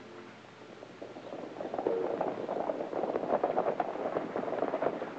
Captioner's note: birds chirping